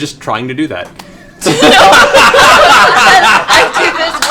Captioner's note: laughter